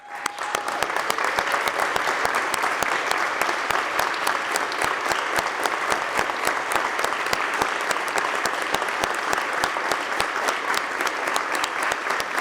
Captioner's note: applause